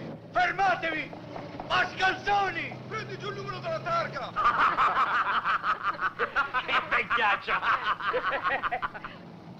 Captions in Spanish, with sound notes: ¡Alto, bribones! Toma la matrícula. (LOS NIÑOS SE RÍEN)